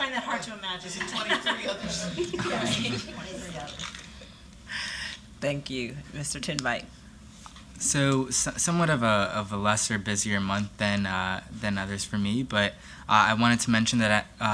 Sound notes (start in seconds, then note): 0.9 laughter